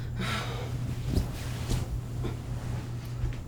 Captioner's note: sighing